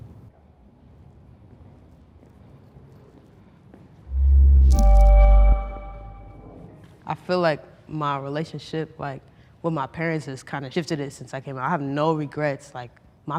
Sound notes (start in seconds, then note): 4.1 chiming